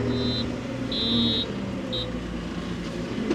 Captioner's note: engine humming; forklift beeping; engine humming continues